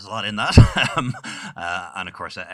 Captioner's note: laughing